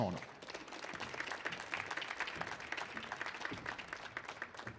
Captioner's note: audience applauds